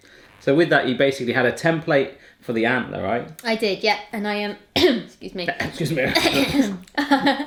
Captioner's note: coughs